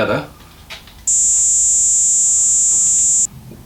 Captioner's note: high frequency simulation